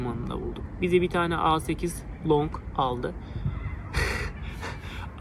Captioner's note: laughing